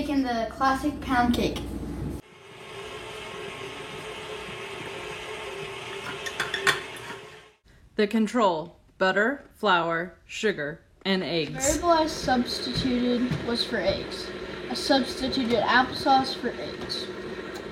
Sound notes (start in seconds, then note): 3.2 cup clinking; 3.2 mixer humming